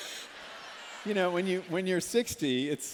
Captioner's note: laughter